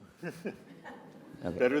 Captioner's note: audience chuckles